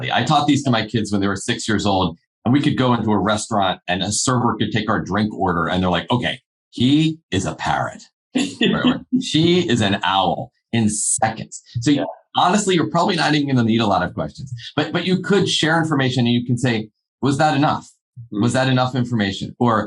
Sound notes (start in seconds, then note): 8.4 laughing